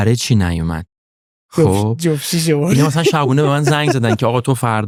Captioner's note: laughs